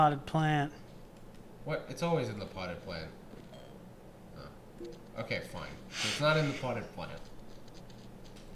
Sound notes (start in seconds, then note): 6.3 quiet laughter